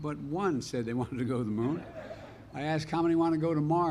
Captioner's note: laughter